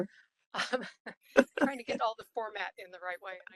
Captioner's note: laugh